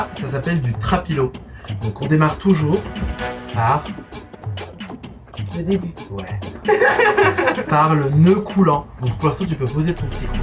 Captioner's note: haha